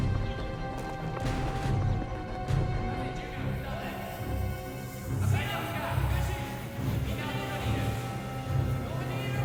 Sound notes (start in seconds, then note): 0.0 man speaks in foreign language; 0.3 intense music; 5.6 men chattering